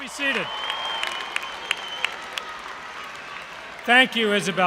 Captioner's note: applause